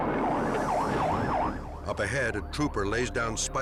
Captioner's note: sirens wailing